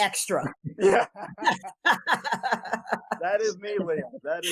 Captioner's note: laughs